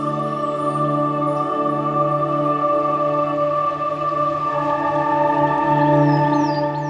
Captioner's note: ethereal music; birds chirping